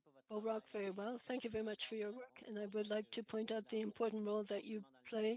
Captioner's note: speaking French